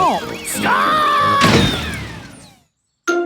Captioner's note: thuds